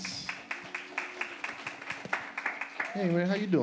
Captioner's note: audience applauds